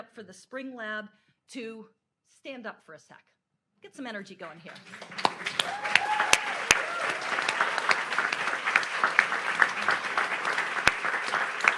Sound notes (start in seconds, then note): 4.6 audience applauds